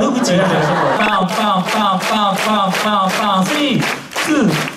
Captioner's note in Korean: 박수